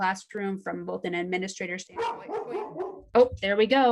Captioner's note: dog barks